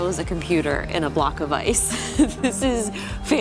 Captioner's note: laughs